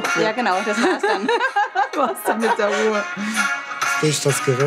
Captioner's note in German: Gelächter